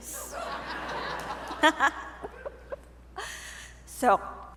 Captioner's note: audience laughing